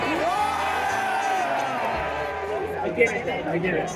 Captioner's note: crowd Cheers